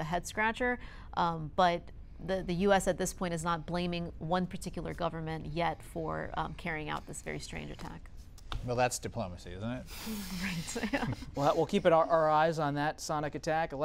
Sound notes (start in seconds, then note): 10.5 laughter